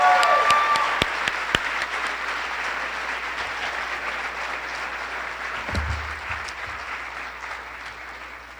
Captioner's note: applause